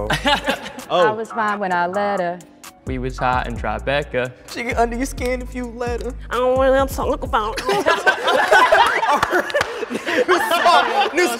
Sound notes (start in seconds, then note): 7.5 group laughing